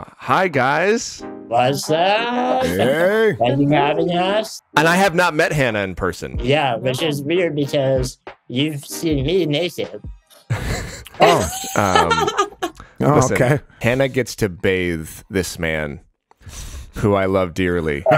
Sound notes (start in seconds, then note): 10.5 laughs